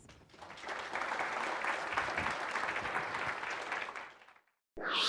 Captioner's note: audience applauding